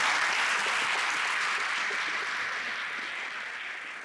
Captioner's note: audience applauds